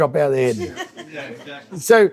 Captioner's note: audience laughs